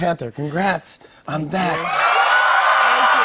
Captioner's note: cheers and applause